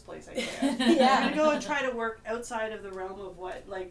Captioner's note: laughter